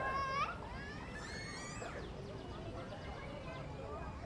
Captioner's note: children's whispering